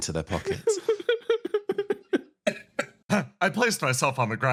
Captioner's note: laughs